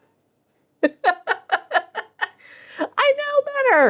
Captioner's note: laughs